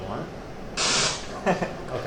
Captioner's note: white noise